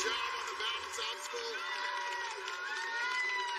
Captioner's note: cheers and applause